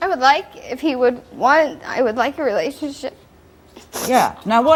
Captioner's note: sniffs